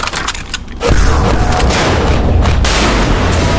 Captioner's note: Bannon groans; gun firing